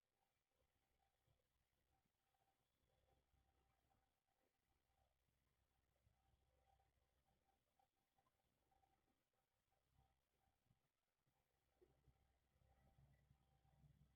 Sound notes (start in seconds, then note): none